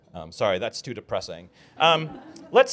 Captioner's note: laughter